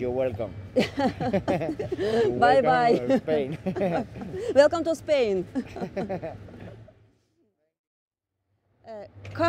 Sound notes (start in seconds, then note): 0.7 laughs; 6.2 street Noise